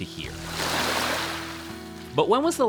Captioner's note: water washing up on to the beach